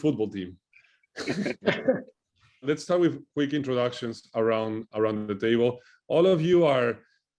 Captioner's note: laugh